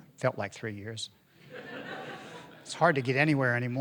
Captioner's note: audience laughing